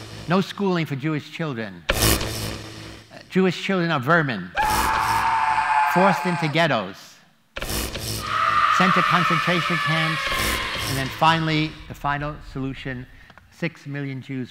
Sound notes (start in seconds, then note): 4.5 screaming; 8.2 screaming